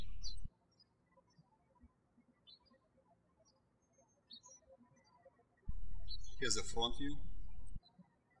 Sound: birds chirping

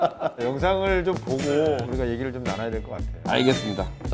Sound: speaking softly

